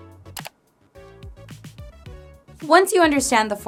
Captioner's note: mouse clicks